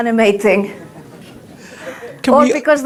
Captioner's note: audience laughs